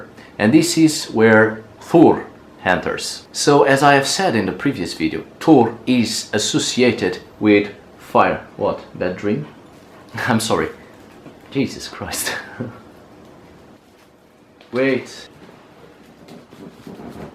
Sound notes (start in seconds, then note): 12.2 giggles